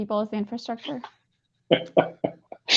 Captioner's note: laughter